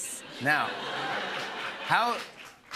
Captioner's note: laughter